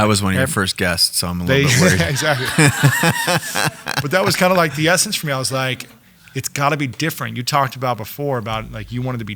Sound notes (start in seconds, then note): 1.6 audience laughing